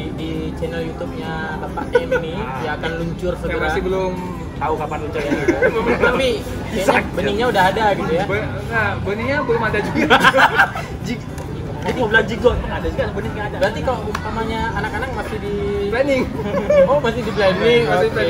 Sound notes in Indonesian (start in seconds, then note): 9.8 laugh